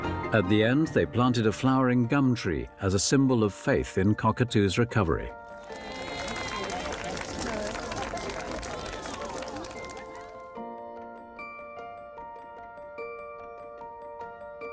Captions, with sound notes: At the end, they planted a flowering Gum tree as a symbol of faith in Cockatoo's recovery. (crowd cheering)